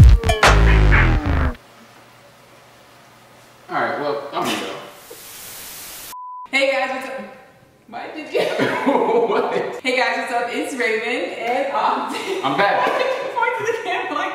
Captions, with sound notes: - All right well, I'm gonna go. (static buzzing) - Hey guys, what's up? Why did you? (laughs) (laughs) - What? - Hey guys, what's up? It's Raven and Ogden. - I'm back! - Why did you point to the camera like that?